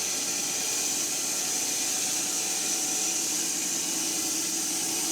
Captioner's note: mill whirring